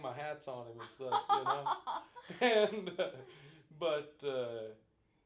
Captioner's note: both laughing